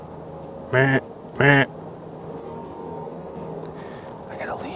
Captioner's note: deer call grunting